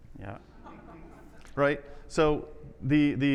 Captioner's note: people laughing